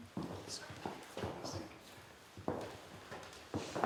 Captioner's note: whispering